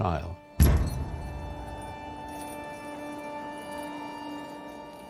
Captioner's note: chains clanging